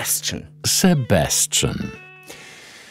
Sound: French

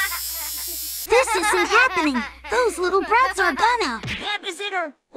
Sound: laughing childern

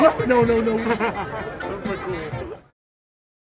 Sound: laughs

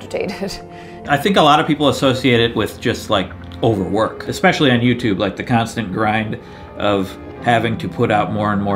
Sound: wheeze

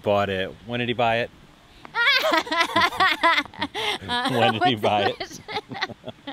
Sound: laughing

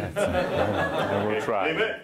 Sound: audience laughing

